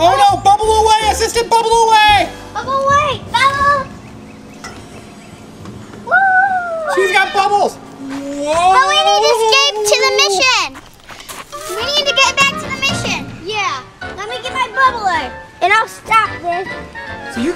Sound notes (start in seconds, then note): 4.4 fan engine humming